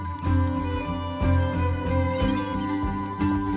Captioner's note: birdsong